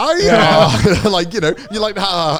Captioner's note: all laughing